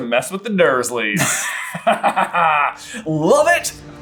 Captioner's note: delighted laughter